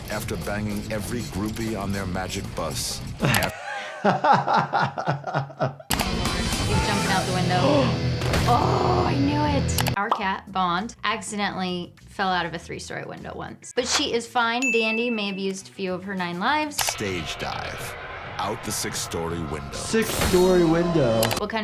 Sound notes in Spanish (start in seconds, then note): 3.2 se ríe